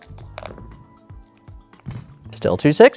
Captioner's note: dice rattling; dice rolling